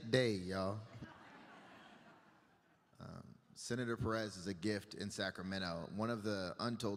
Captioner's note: laughter